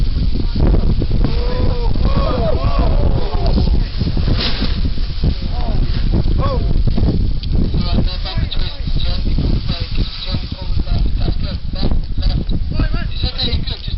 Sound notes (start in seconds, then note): 1.2 crowd